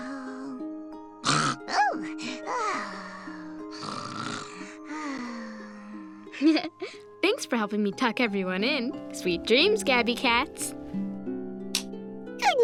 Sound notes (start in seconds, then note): 1.2 loud snore; 1.2 sighs; 3.7 loudly snores; 6.3 chuckles